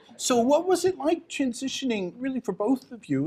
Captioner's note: none